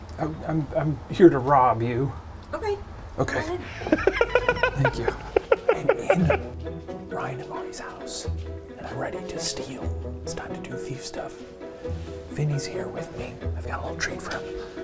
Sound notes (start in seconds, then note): 3.6 laughing